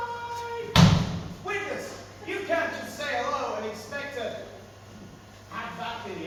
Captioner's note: stamps foot